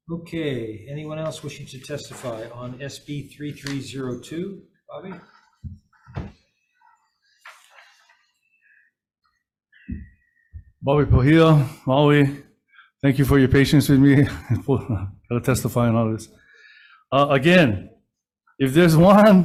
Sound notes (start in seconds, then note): 14.1 laughs